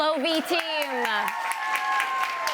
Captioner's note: applause